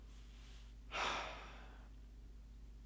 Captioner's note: sigh